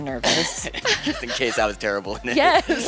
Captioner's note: laughs